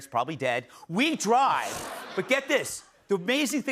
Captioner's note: laughter